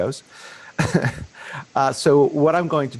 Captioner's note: chuckling